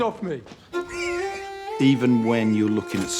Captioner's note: pig squealing